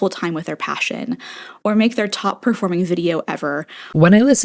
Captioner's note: inhale